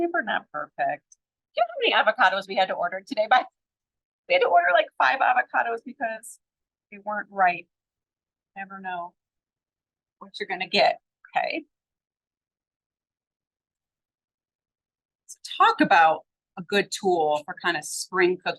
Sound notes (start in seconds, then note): 4.6 laughs